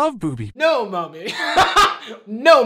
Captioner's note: laughing